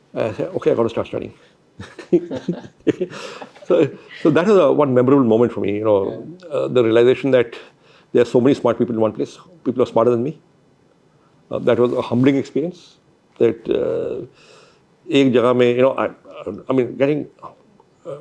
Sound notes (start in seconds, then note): 1.8 laughs